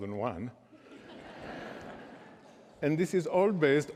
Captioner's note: laughter